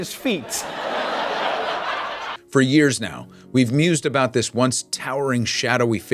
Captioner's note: laughter